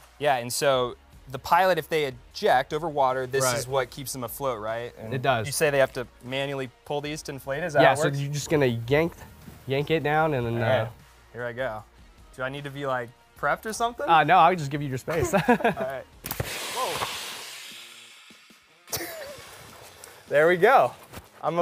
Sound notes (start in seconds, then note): 16.2 air blowing; 18.9 laughs